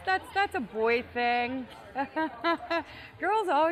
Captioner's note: laughing